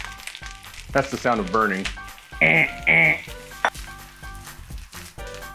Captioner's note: makes sound of alarm